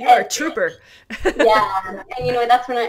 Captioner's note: laughs